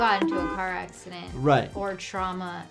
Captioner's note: horn honking